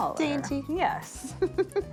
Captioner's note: laughs